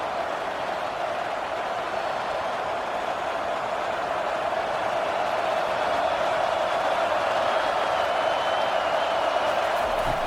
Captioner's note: crowd cheering